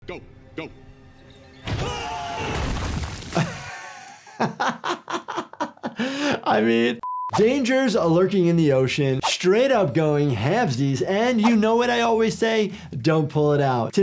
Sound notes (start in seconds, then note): 1.6 both yelling; 3.4 laughing; 7.0 beeping